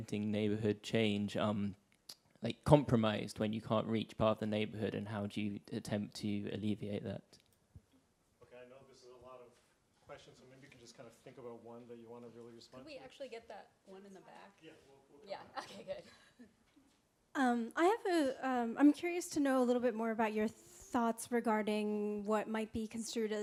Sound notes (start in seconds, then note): 14.9 speaks softly; 15.5 chuckles